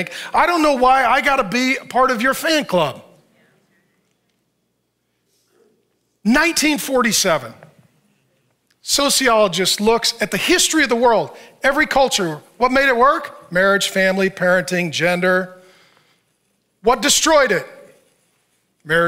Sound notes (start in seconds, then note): none